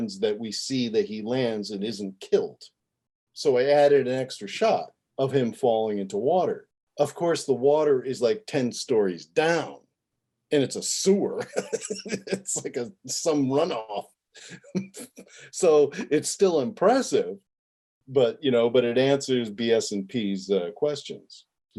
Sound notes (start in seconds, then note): 14.0 laughing